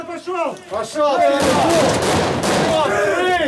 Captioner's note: shouts; gunshots